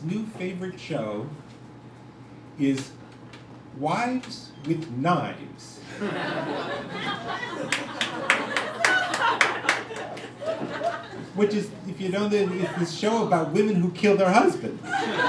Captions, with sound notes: new favorite show is Wives With Knives. (crowd laughing) Which is the show about women who kill their husbands.